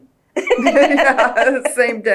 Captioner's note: laughter